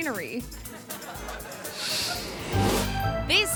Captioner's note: audience laughing